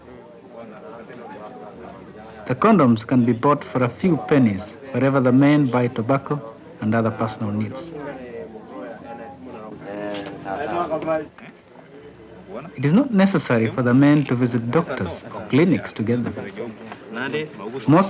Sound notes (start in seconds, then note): 10.1 speaking Swahili